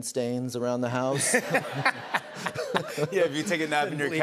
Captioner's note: laughter